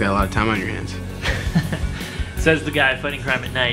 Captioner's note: Wesley chuckles